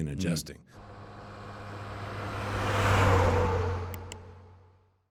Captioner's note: truck engine whirs